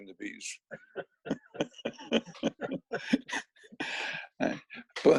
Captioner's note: laughing